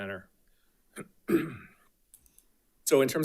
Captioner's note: coughs